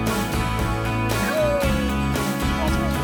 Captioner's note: howl